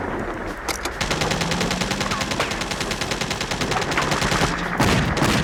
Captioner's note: rapid gunfire popping